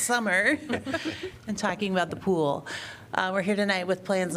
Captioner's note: laughter